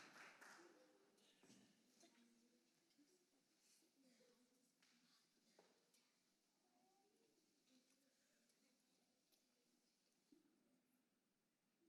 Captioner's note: applause